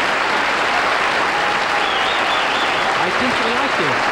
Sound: applause

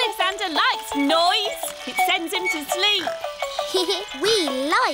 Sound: giggles

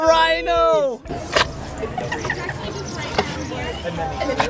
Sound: eating sounds

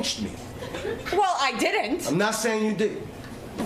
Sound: laughter

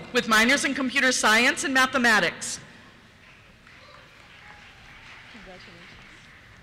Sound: cheers

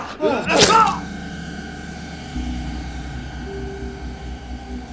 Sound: knife slicing; tense music

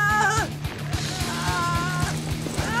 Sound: Rikki screams

